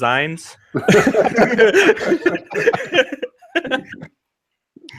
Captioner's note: everyone laughs